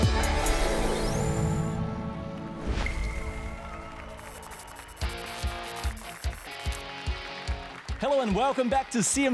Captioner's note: applause and cheers